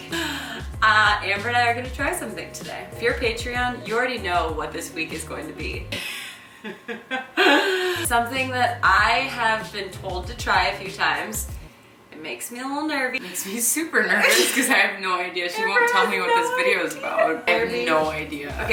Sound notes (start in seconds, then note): 6.6 laughing